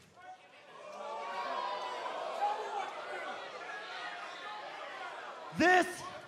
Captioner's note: cheers and applause